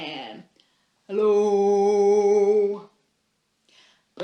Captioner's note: low-pitched